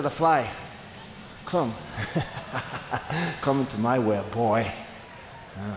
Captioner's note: laughs